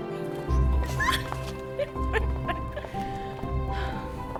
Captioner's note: laughing